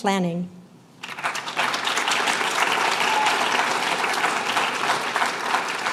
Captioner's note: applause